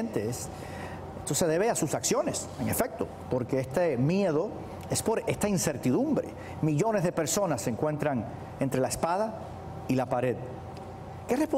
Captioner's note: speaking spanish